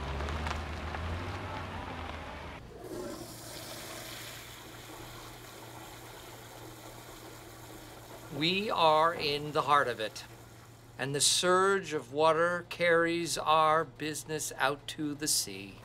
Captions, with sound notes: [ Toilet flushes ] -We are in the heart of it. And the surge of water carries our business out to the sea.